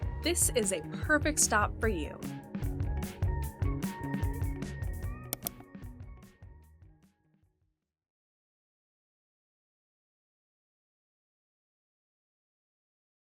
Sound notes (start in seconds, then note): 2.2 laid-back music continues; 5.2 mouse clicks